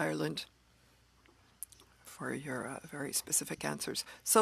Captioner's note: speaking French